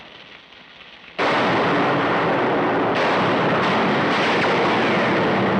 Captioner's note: gunshots